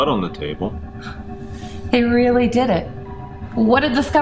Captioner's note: sighs